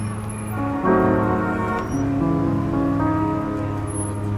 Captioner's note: horn honks